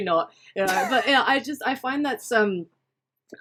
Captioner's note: laughs